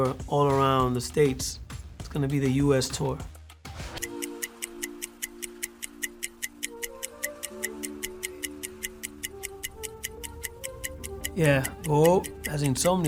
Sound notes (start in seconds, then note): 3.5 ticking